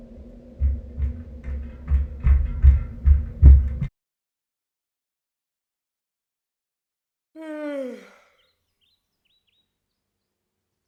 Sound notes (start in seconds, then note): 0.6 upstairs footsteps; 7.3 loud yawn